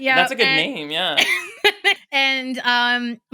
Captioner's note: laughs